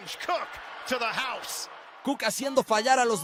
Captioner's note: cheers and applause